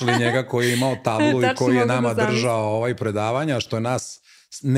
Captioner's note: laughter